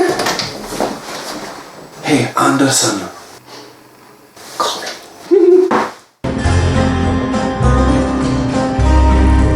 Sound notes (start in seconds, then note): 3.6 whispers; 5.4 excited noises